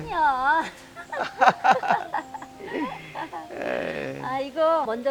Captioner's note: both laughing